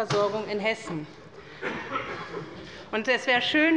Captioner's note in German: Anhaltende Unruhe auf der Regierungsbank